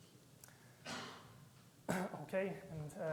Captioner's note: audience member coughing; clearing his throat